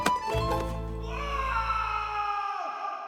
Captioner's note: shriek